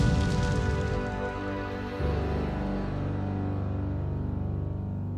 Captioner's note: building clattering